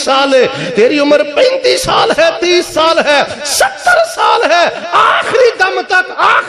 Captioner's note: screaming